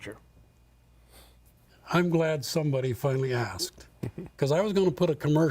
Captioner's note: laughter